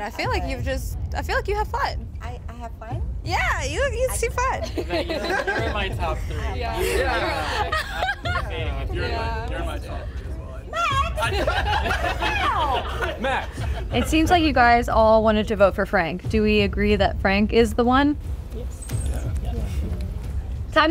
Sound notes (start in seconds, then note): 4.5 group laughing